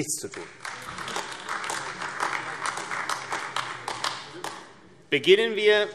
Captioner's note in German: Beifall AfD